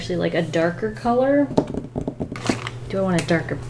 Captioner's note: fingers drumming